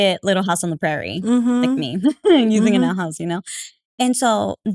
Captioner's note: laugh